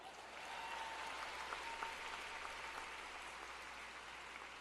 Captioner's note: applause